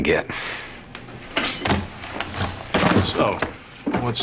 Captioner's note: book and portable CD player rustle